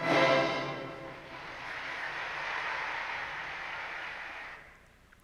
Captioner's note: audience applauding